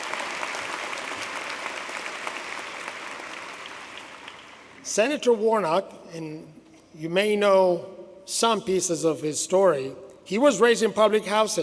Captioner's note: applause